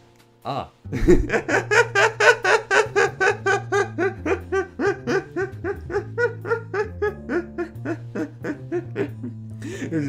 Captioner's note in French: Rires